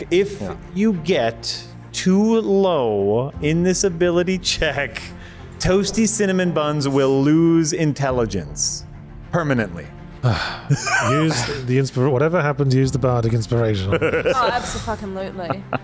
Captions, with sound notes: If you get too low in this ability check, Toasty Cinnamon Buns will lose intelligence, permanently. - Ugh. [Chuckles] - Whatever happens, use the bardic inspiration. - Oh, abso-f'n-lutely.